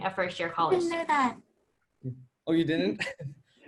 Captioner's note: laugh